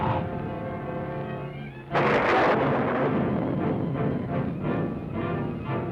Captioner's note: thunder crashing